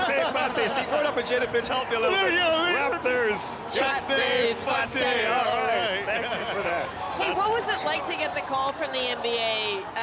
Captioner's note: speaking punjabi